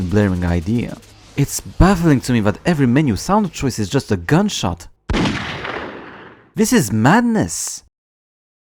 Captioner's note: gun noise